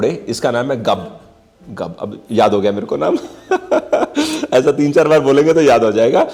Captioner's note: laughter